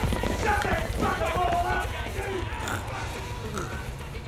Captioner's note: sounds of bikies being dragged away by police